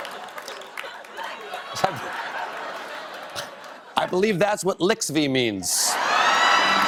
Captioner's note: laughter; applause; laughter